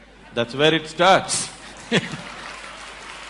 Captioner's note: applause